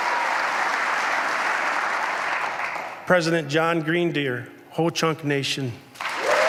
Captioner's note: applause